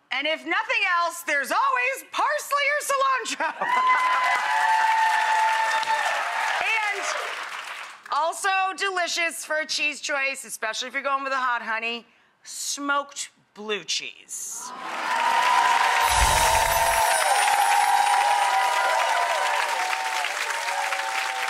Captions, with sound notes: And if nothing else, there's always parsley or cilantro! (audience cheers) And also delicious for a cheese choice, especially if you're goin' with a hot honey, smoked blue cheese. (audience cheers) (chimes tinkling)